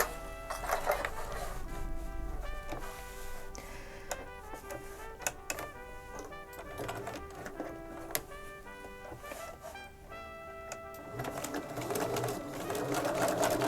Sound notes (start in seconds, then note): 2.5 sewing machine whirring; 3.9 clips rattling